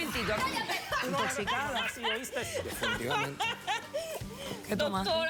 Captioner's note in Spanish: risotada